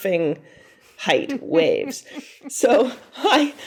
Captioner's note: chuckling